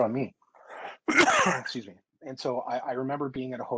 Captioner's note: clears throat